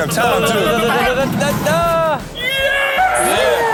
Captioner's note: Driver and Rob vocalizing